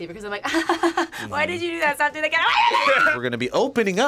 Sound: laughs awkwardly; yells

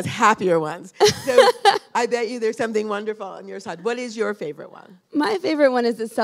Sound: laughter

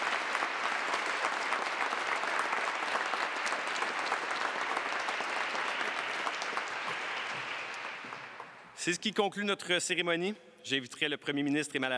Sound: applause

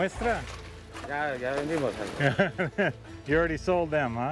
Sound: speaks Spanish; laughs

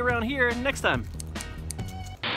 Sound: snip snip snip

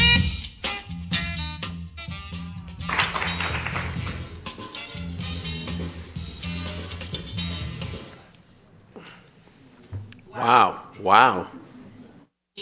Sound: applause

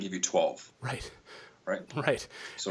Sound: chuckles

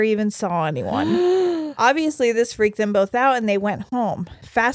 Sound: gasps

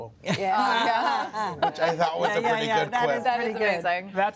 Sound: laughter

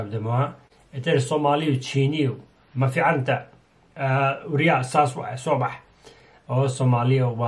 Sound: speaks Somalian?

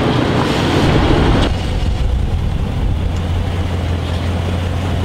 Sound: car rumbling

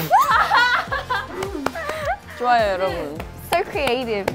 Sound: clap clap; abruptly ending with a clap

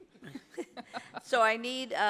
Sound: laughter

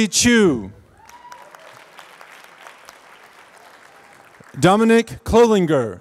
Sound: applause

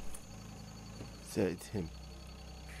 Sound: in English

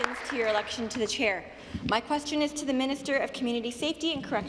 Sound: applause

